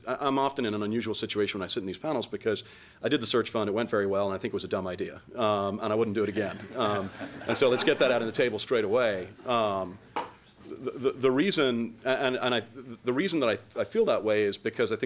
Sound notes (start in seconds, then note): 8.8 laughing